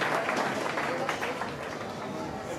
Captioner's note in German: Applaus verklingt